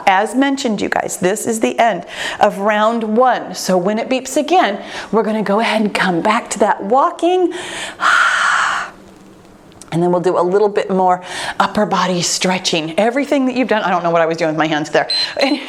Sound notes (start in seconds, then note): 7.5 breathes out